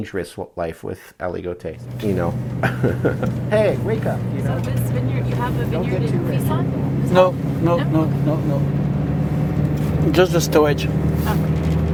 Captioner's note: voices talking in background, sounds of driving in van